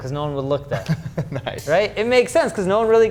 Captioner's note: chuckles